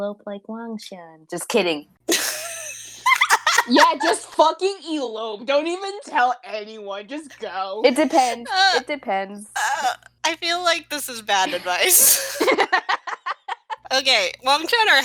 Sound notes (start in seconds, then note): 2.1 wheezing laughter; 11.9 laughter